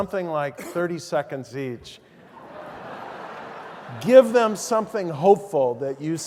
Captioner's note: laugh